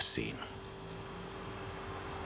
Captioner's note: buzzing